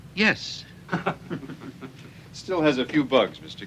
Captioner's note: men chuckling